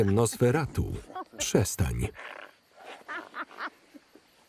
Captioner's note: Ara laughing